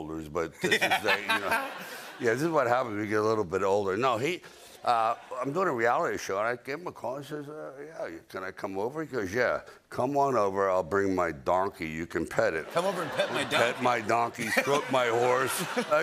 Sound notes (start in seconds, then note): 0.6 laughter; 12.6 laughter